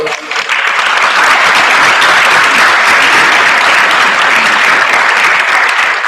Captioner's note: applause